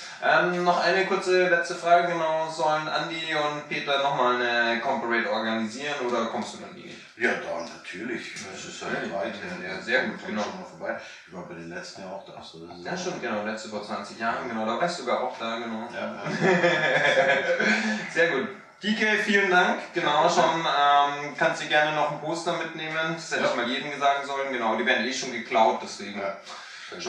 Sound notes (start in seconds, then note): 16.0 laughs